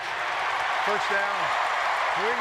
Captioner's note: cheering